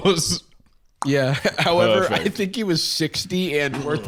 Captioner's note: clicks tongue